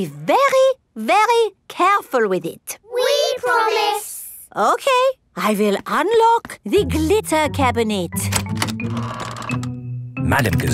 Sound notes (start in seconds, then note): none